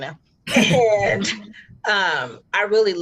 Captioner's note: all laughing